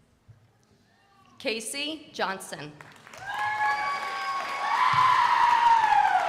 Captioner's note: crowd applauding